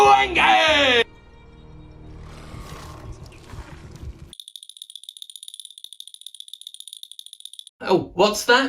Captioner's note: jingle bell sounds as leg glitches